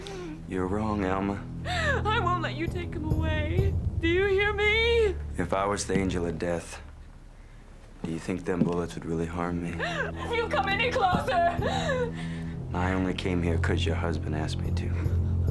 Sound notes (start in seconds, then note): 9.8 gasps